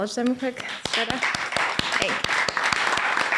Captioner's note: applause